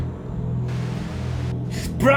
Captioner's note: static